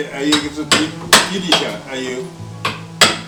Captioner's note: wu Chinese